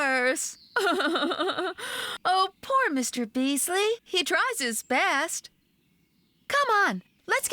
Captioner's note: laughing